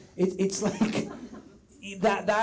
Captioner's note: audience laughs softly